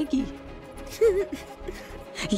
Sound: Pakiya whimpering

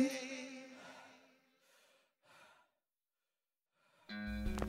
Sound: heavy breathing

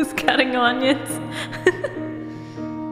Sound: laugh

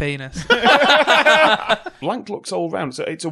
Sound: laughter

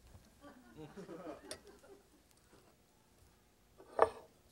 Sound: audience giggling

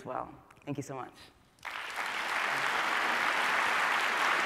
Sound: applause

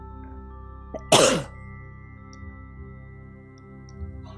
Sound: client coughing

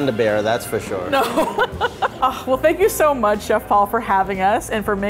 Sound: laughs

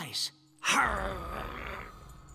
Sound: growling

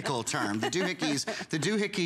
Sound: laughter

